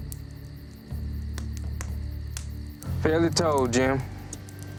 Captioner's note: fire crackling